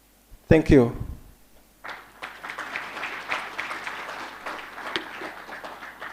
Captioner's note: applause